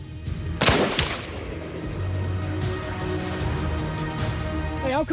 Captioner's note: gunshot